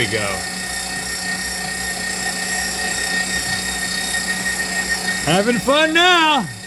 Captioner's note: meat grinder sounds